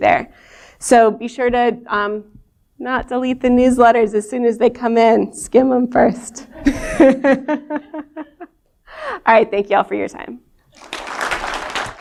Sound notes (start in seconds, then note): 6.6 laughter; 10.7 applause